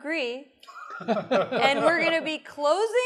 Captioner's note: laughter